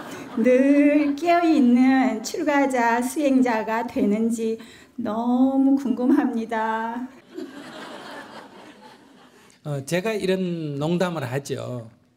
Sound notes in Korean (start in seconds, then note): 0.0 청중 웃음; 7.2 청중 웃음